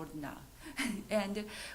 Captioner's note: chuckles